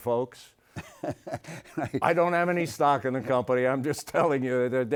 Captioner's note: Stan laughs